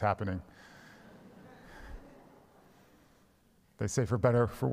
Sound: congregation laughs

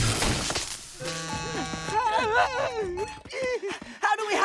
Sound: buzzing, chiming

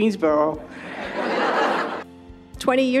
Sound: audience laughing

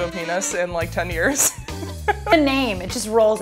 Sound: laughs

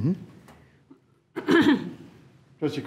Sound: clears throat

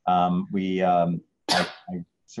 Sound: sneezes

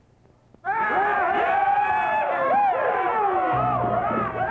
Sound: men yelling; mysterious music

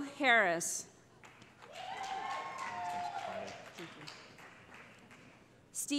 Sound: cheering

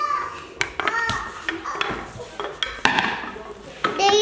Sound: plastic dust pans clanging

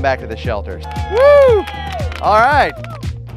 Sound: group cheering

